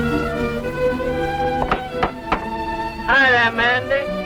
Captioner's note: hand knocking on door